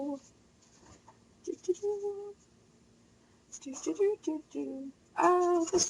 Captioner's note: humming